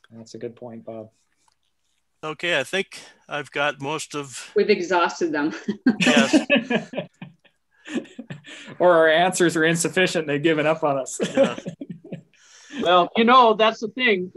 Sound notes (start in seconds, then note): 5.6 chuckling